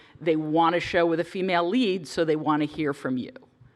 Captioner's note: none